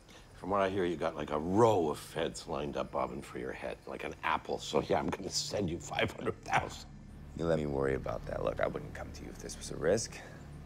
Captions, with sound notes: From what I hear you've got like a row of Feds lined up bobbing for your head like an apple... (laughing) So yeah I'm gonna send you five hundred thousand... You let me worry about that. Look, I wouldn't come to you if this was a risk.